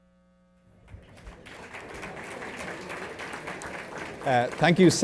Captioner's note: applause